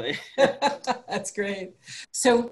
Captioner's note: laughing